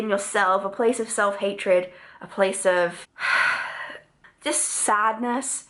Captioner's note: sighs